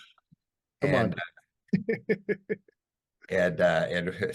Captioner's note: laughs